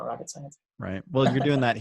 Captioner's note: laughs